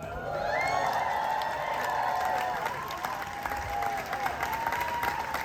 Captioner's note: audience cheering and clapping